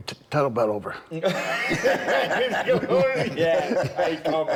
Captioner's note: Bron and Rick laughing